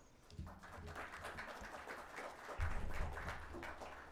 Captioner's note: audience applauding